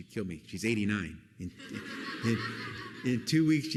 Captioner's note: laughter